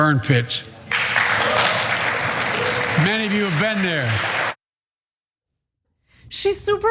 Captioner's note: applause